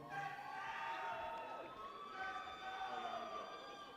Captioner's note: people cheer